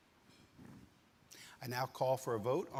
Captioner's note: utensil clinking